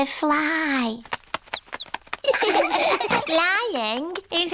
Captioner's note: chirping; laughter